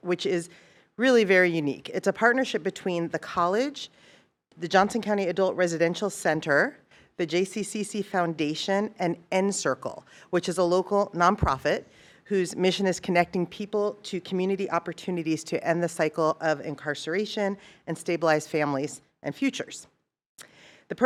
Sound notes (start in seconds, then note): none